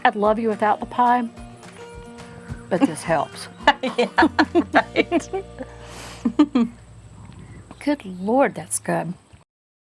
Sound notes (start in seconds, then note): 3.4 laughing